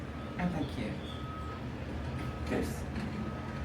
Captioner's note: horn honking